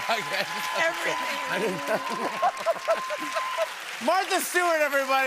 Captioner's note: cheers and applause